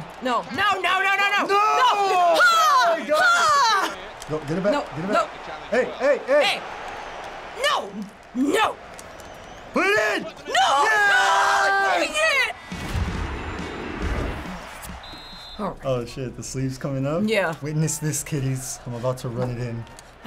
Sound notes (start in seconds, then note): 12.6 spectators cheering; 14.5 ref blowing whistle